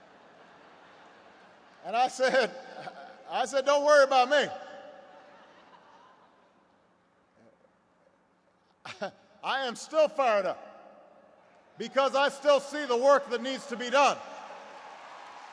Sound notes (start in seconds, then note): 0.0 laughter; 5.0 laughter